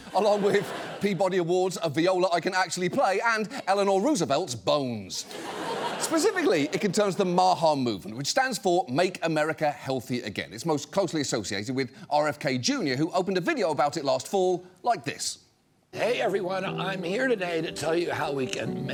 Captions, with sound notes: along with Peabody Awards, a viola I can actually play, and Eleanor Roosevelt's bones. (STUDIO AUDIENCE LAUGHS) Specifically, it concerns the MAHA movement, which stands for Make America Healthy Again. It's most closely associated with RFK Jr., who opened a video about it last fall like this.